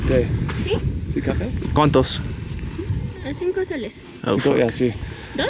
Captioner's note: speaking Spanish